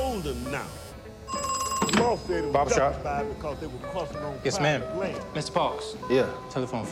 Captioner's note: telephone rings